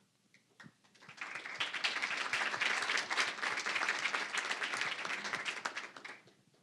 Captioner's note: applause